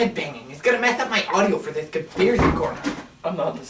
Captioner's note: books fall in the background